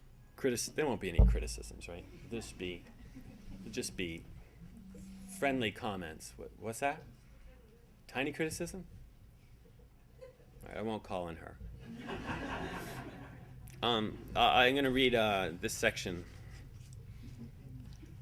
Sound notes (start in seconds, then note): 11.9 audience laughing; 12.0 audience giggling